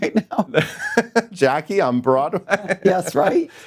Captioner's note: laughs